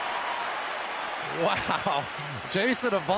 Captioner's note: cheering